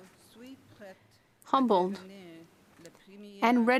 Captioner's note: speaking French